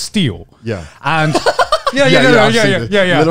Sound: laughs

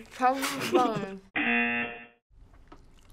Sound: chuckles; buzzer

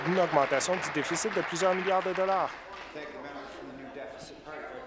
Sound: applause

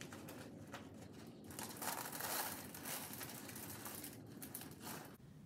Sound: rocks crumbling

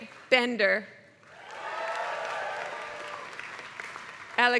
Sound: applause

